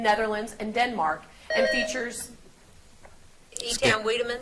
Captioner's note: buzzer beeps